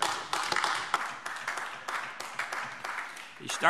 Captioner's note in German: Beifall AfD